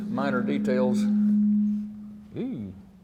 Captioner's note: microphone humming